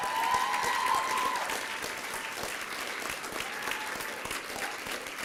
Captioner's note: applause and cheering